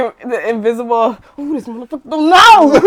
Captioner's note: screaming